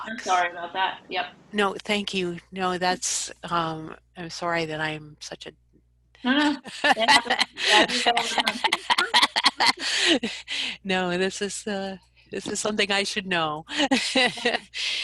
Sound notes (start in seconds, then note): 6.2 laughs; 13.8 laughs